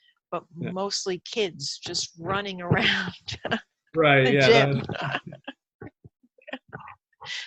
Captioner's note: both laugh